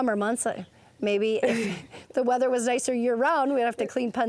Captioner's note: laughter